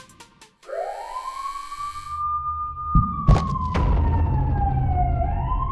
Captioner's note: emergency sirens sounding